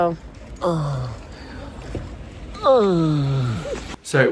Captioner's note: groans